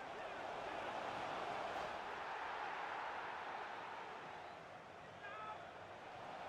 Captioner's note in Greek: χειροκρότημα